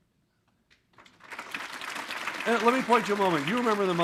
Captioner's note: audience applauding